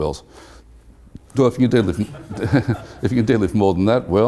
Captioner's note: laugh